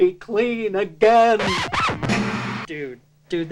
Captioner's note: record scratch